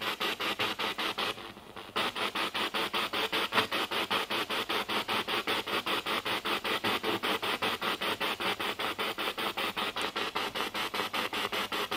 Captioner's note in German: Noise of the spiritbox in the background